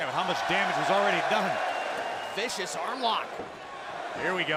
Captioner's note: crowd cheering